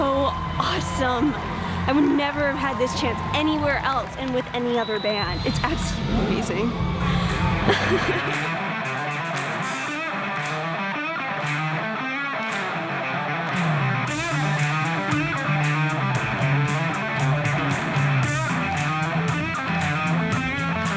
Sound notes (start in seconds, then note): 5.2 laughs; 7.3 guitar and clapping